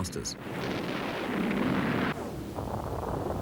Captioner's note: cannon blasts; earth rumbles